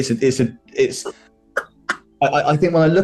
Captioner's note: laughing